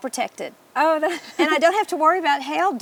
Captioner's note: laughs